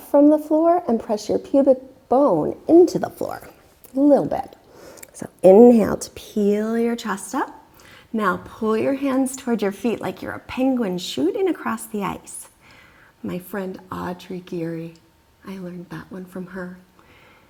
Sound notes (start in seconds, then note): 4.7 loudly exhaling; 5.8 deeply inhaling